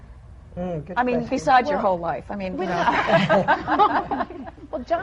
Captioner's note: laughter